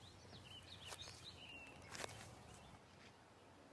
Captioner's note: birds chirping